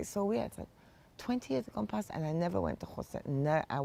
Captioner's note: hebrew